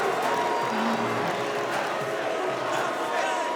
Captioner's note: all shouting